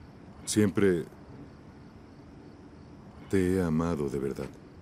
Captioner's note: sonido tráfico